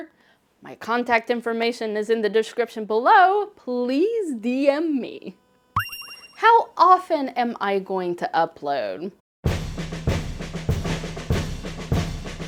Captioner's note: heart shine sound